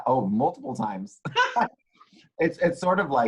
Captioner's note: laughs